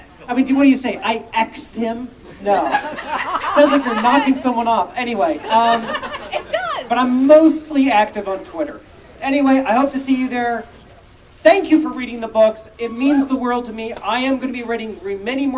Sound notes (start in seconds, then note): 5.1 audience Laughing